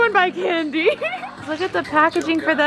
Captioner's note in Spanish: riendo